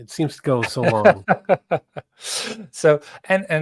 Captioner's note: laughing